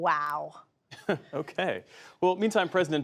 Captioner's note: laughter